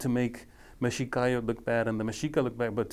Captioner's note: speaking foreign language